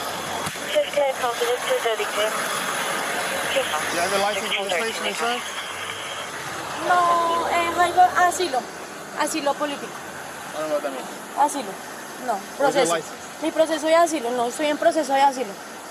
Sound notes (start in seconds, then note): 7.5 speaking in Spanish; 11.2 speaking in Spanish